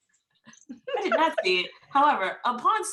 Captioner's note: laughing